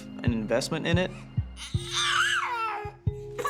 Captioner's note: baby crying